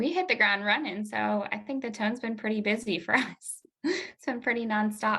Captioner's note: chuckle